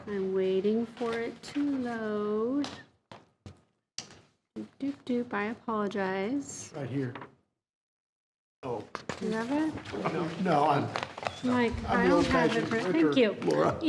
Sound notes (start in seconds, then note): 4.7 vocalizes